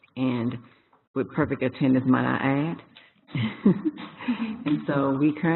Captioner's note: laughter